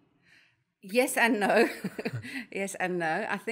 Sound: laugh

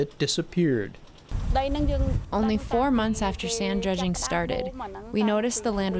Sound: through translator

